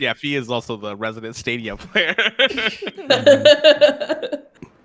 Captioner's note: laughing